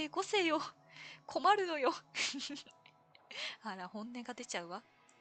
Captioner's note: laughs